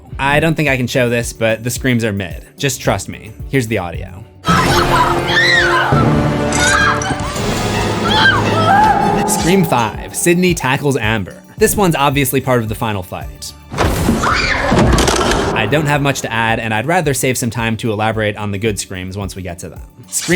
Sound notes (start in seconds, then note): 6.6 screams; 14.2 screams